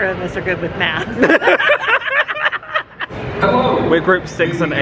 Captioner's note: pair laughing